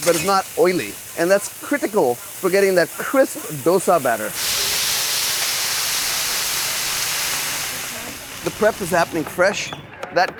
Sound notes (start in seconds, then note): 4.7 water sizzling